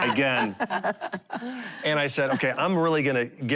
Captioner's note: laughing